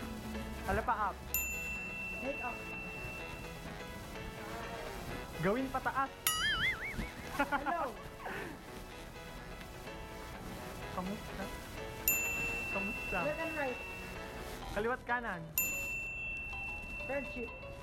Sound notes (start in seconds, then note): 6.4 laughs